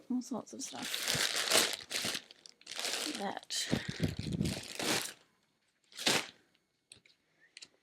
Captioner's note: annoying rustling